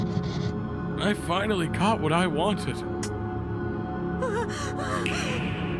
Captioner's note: pants